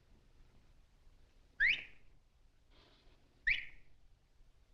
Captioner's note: whistle; whistle